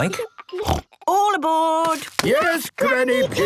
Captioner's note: snort